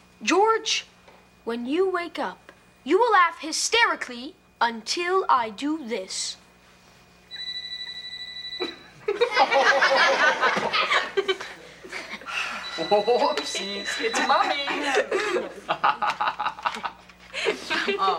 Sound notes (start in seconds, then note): 7.3 phone ringing; 9.0 audience laughter; 17.1 laughs